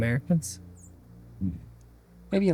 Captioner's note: grunt